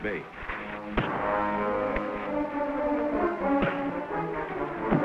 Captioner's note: fists thudding